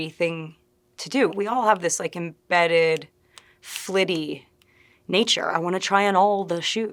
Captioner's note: snapping